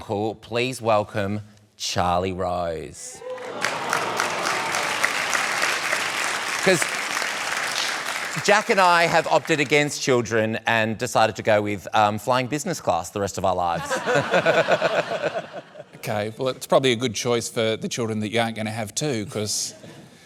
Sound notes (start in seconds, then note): 3.2 applause; 13.7 laughter